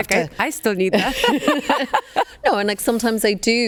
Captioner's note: both laughing